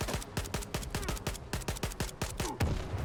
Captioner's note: gunfire